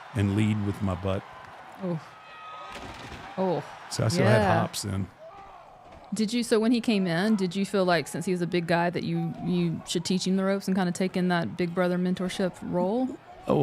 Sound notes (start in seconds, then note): 2.8 table breaking